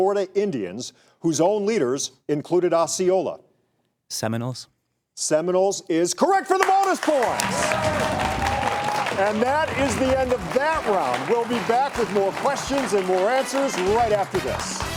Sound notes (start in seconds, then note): 7.3 audience applause